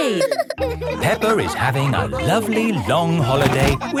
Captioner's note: all laughing